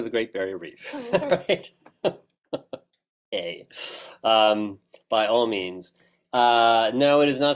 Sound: laugh

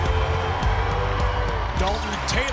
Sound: cheering

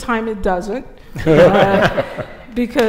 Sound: laughter

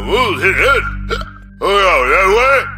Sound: burp

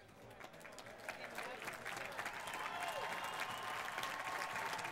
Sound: applause

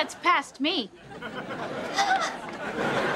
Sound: panting

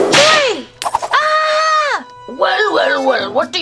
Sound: whip cracks; dogs scream

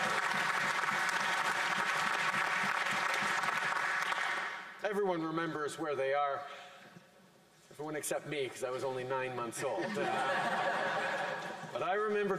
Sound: cheering and Applause

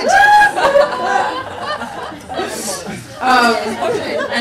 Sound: people laugh

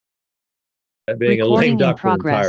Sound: computer Voice

